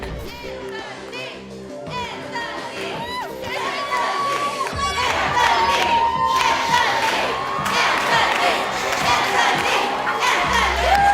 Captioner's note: chanting "Anthony"